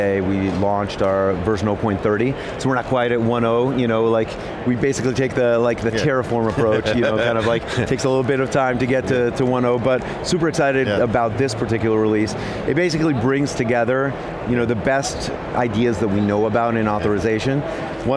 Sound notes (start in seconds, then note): 6.6 laughs